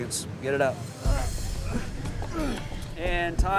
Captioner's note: students grunt